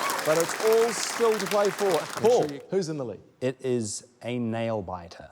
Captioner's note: cheering, applause